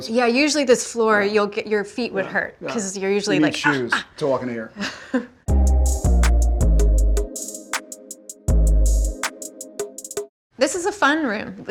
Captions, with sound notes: - Yeah, usually, this floor, your feet would hurt because you're usually like [Genevieve grunting] - You need shoes to walk in here. [hip-hop music] This is a fun room.